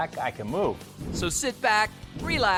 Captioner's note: air whooshing